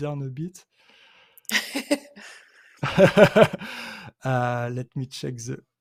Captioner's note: chuckling